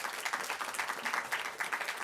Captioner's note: applause